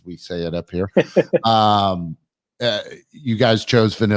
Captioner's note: laughs